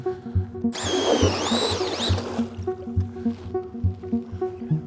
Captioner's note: auger whirring